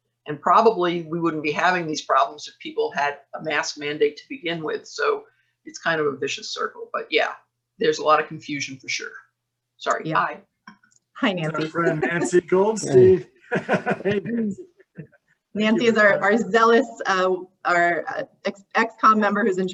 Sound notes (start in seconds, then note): 11.5 laughs